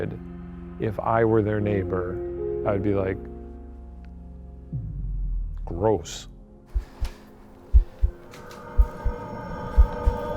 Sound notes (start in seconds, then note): 7.5 heart beating; 8.5 eerie music